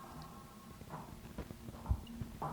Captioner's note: footsteps